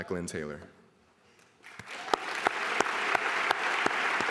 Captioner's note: applause